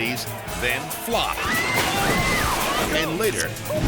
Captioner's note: contestants screaming